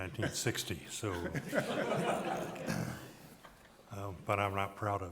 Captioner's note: people laughing